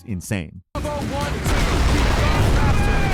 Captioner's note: explosions booming